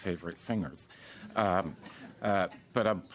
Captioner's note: laughter